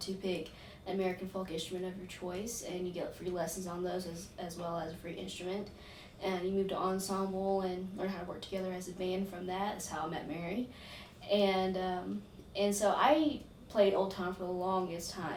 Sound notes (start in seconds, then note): none